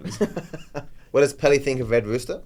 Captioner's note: laughs